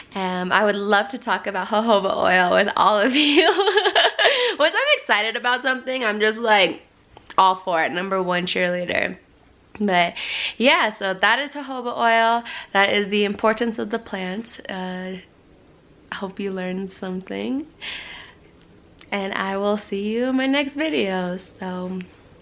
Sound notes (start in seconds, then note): 3.2 laughs